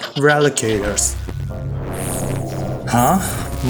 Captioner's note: Myst, The Undoer whispers